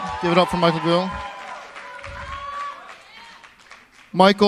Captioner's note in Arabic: تصفيق